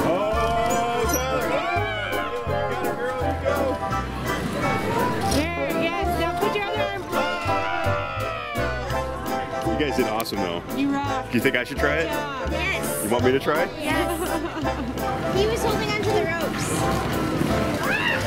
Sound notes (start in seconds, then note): 7.4 shouting; 17.8 cheering